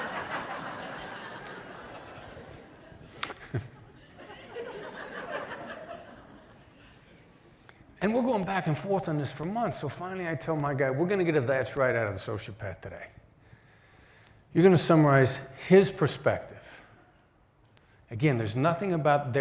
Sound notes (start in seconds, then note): 2.9 laughter